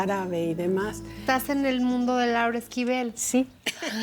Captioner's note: speaking Spanish; laughter